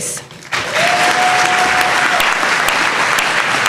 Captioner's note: applause